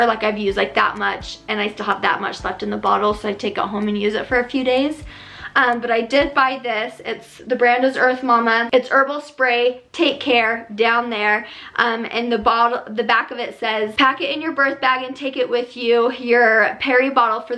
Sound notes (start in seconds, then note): none